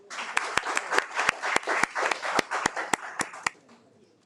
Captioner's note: attendees applaud